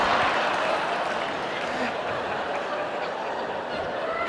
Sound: audience laughing

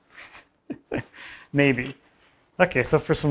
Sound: laughs

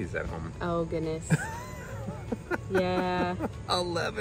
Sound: laughs

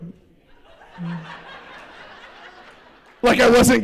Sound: laughter

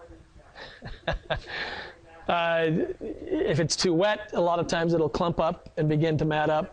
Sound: laughs

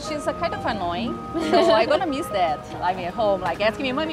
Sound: laugh

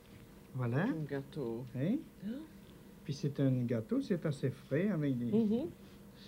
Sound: both conversing in French

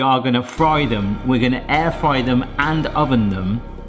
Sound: dramatic clang resonates

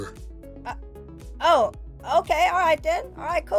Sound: voice tone change

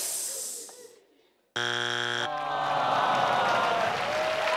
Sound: buzzer buzzing; all clapping

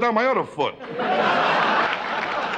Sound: laughing; clapping

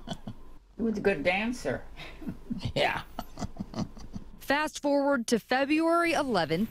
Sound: laughs

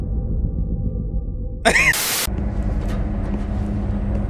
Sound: laughs

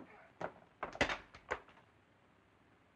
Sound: thump

